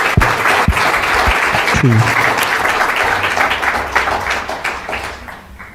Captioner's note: applause